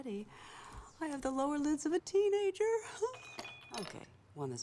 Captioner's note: chuckles